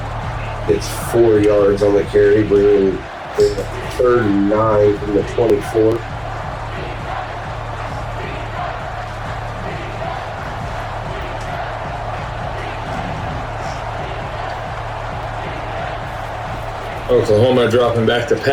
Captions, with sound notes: It's four yards on the carry, bringing 39 to the 24. [Crowd Noises] Oklahoma dropping back to pass.